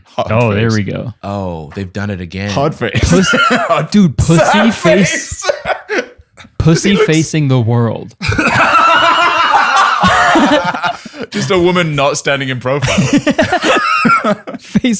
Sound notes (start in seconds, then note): 2.9 laughs; 8.2 laughter; 14.0 laughter